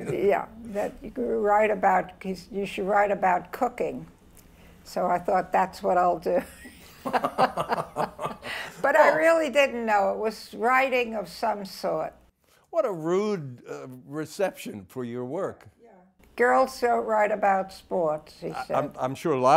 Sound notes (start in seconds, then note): 0.0 laughs; 6.4 both laugh